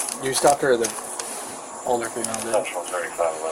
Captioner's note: radio chatter